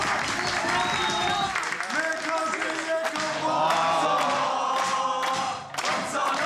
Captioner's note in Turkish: Hep bir ağızdan; Alkış sesleri; Islık sesleri; Hep bir ağızdan